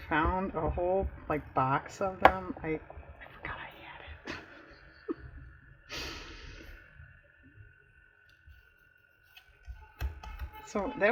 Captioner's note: laughs